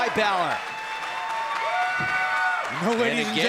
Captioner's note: crowd cheers